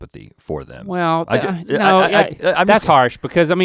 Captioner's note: sighs